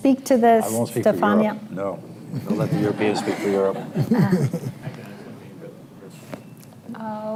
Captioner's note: laughter